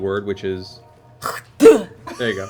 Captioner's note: spitting sound